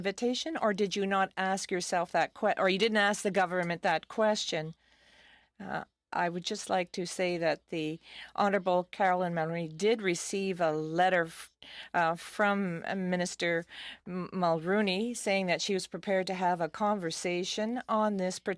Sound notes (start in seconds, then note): 4.2 speaking in French